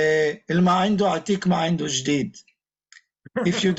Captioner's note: speaking in Iraqi